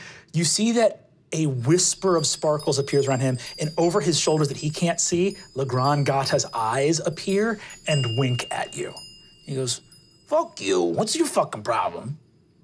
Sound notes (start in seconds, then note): none